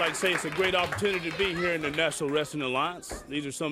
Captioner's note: crowd cheering